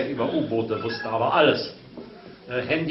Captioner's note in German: Telefonklingeln